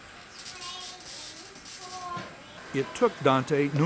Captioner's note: electricity crackles